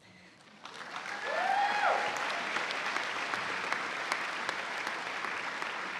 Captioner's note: cheers and applause